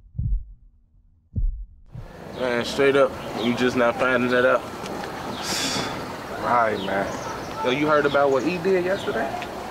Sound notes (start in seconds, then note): 5.4 scoffs